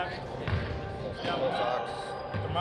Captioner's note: indistinct chatter